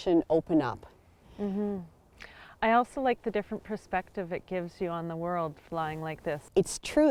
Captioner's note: mmm